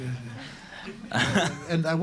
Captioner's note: laughter